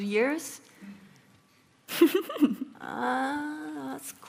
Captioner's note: laughing